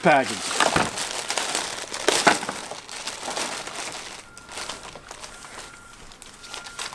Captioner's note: plastic being torn